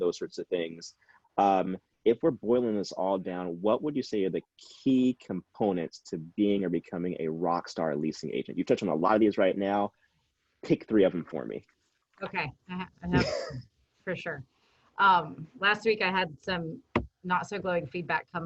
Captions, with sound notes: those sorts of things. If we're boiling this all down, what would you say are the key components to being or becoming a rockstar leasing agent? You've touched on a lot of these right now, pick three of them for me. - Okay, uh-huh, uh-huh, (chuckles) for sure. Last week I had some not so glowing feedback